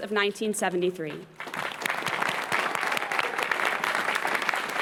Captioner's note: applause